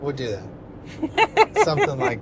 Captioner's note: laughing